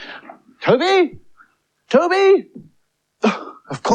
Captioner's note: calls Loudly